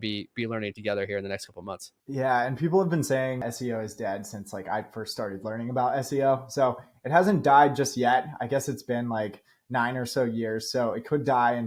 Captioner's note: speaking